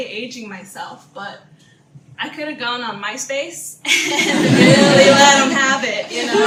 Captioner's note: audience laughter